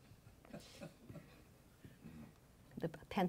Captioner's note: laughing